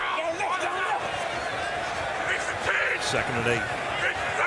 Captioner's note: shouting